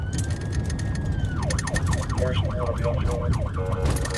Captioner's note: siren wailing